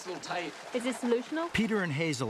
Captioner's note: faintly speaking